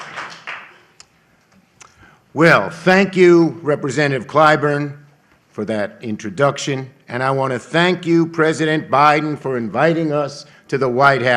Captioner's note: applause